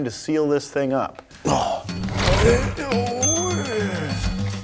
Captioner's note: exclaims; ding; upbeat music